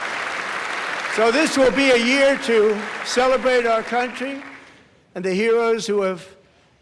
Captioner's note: applause